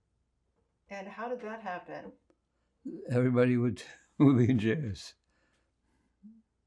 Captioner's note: laughing